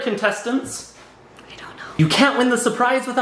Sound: whispering

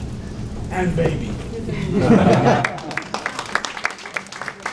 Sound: audience laughing

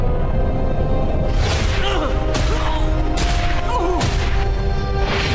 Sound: grunting, groaning

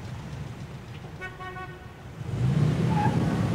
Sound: horn honking

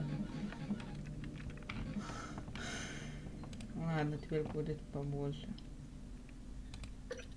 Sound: sighs

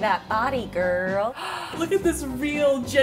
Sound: gasp

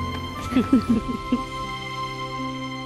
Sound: chuckling

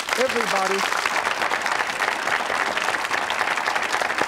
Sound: audience applauding

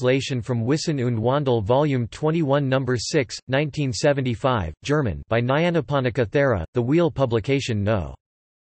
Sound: German

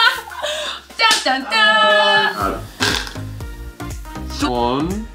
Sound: spinner sound

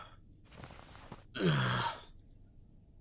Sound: grunts

